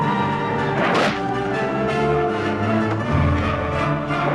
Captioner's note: intense operatic music; sword slices